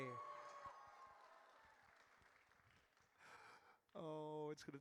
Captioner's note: audience cheers